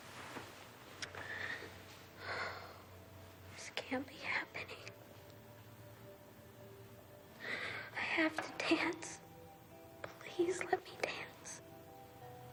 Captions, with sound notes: - (sighs) This can't be happening. I have to dance, please, let me dance!